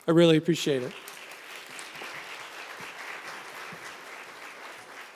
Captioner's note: members applauding